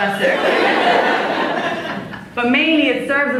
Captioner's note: laughs